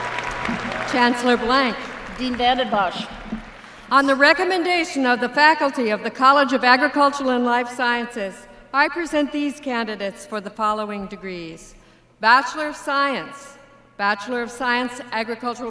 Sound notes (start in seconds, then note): 4.1 applause